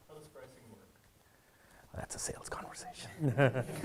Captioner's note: speaks faintly